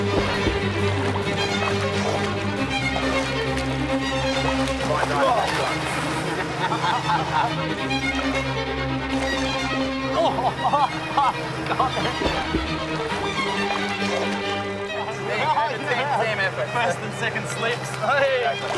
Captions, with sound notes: Ohh! (SPITS) (LAUGHS) Ohh! (LAUGHS) Got it! There you go. Team effort. First and second slips! Wahey!